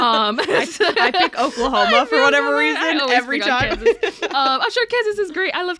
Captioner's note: laughs